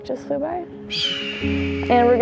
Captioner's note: hawk screams